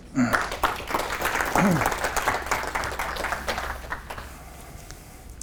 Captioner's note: applause